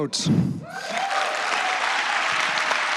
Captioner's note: applause